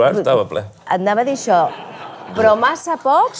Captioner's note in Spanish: risas